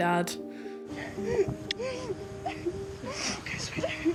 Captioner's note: sobbing